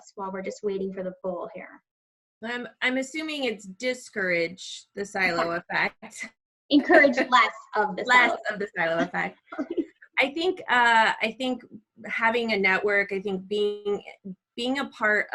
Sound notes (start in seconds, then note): 6.8 laughs; 9.4 laughs